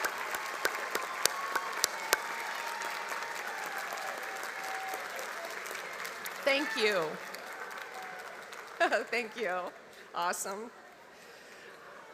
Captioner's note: cheers and applause